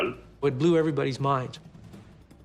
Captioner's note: in English